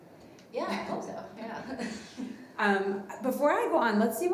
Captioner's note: everybody laughing